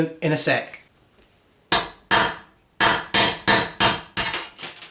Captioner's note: hammering